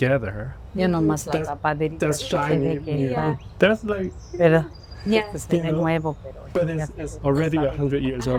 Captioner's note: speaking spanish